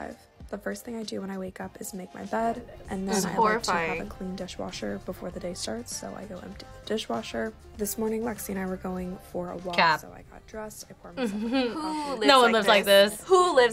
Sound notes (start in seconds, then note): 11.2 laughs